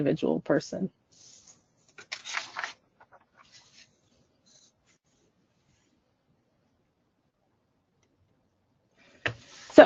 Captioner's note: silence